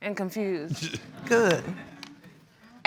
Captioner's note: audience chuckling